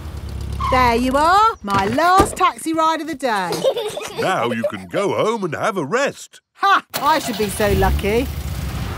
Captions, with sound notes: -(BRAKES SQUEAL) -There you are, -my last taxi ride of the day! -(PEPPA AND GEORGE GIGGLING) Now you can go home and have a rest. -(CAR ENGINE STARTS) -Ha! I should be so lucky!